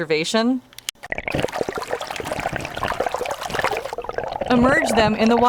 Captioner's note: water flowing